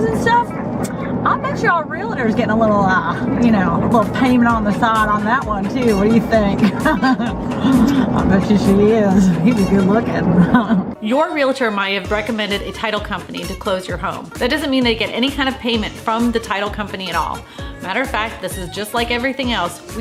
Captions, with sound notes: and stuff? I'll bet you our realtor's getting a little, you know, little payment on the side on that one, too. What do you think? (laughing) I'll bet you she is. He was good looking. Your realtor might have recommended a title company to close your home. That doesn't mean they get any kind of payment from the title company at all. Matter of fact, this is just like everything else.